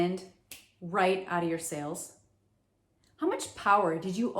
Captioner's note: fingers snapping